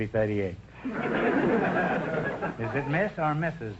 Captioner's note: audience laughter